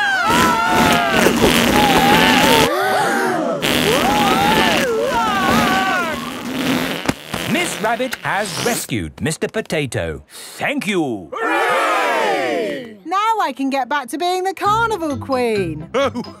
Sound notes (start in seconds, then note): 0.0 both screaming; 3.1 crowd gasps; 4.9 screaming